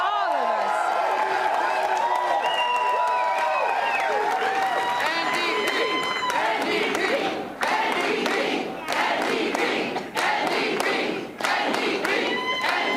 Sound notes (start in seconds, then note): 3.8 applause and cheering